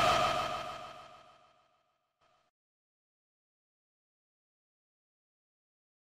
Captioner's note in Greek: Ουρλιάζοντας